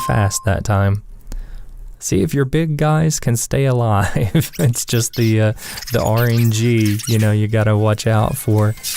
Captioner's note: haha